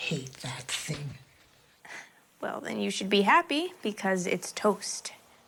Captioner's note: none